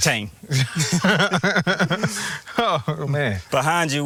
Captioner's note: laughing